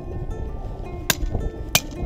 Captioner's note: chisel sounds